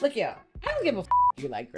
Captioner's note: beep